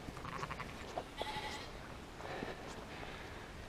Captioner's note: rogue sheep bleat